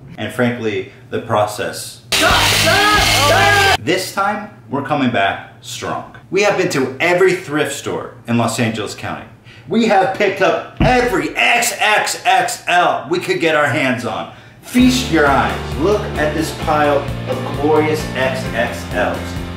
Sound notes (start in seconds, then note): 2.1 loud rock music; 2.2 handsaw buzzing; 18.0 inspirational music